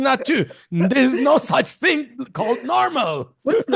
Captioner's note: laughs